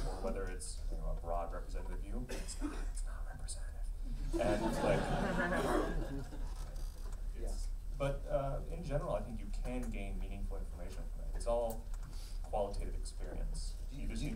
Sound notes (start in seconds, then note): 4.3 laughing